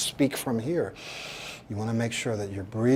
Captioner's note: breathes